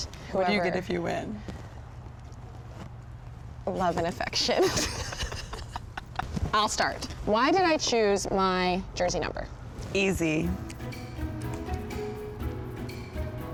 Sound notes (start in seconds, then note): 4.5 both laugh; 10.4 bright music